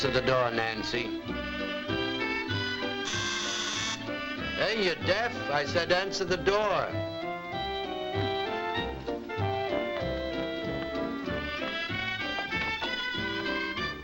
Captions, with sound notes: - Answer the door, Nancy. (doorbell buzzes) Hey, you deaf? I said answer the door. (bright music playing)